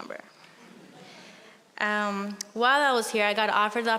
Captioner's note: audience chuckling